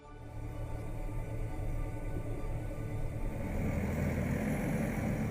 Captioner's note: tractor humming; relaxing music